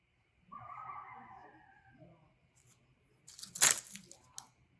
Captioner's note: animals howling out